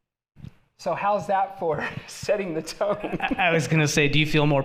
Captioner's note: laughing